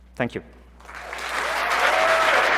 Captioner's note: applause